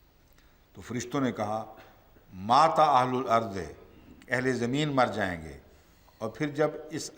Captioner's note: Arabic